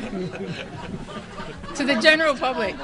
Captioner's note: audience laughing